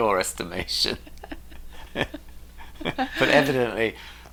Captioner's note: laughing